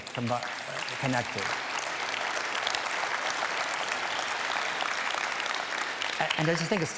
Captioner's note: applause